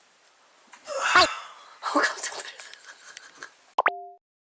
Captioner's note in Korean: 깜짝 놀람